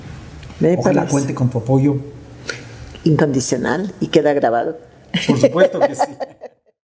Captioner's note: laughs